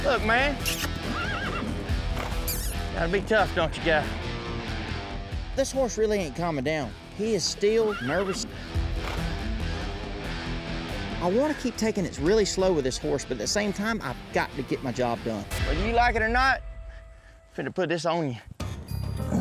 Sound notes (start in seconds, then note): 0.6 horse neighs